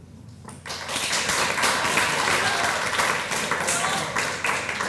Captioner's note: applause